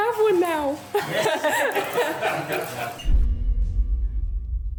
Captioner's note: all laughing